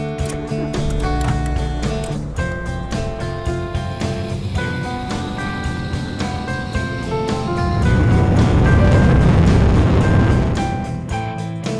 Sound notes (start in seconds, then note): 0.0 car door closing; 0.2 car engine starts; 4.1 reactor thrust sound